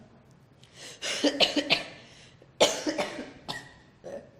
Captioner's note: coughs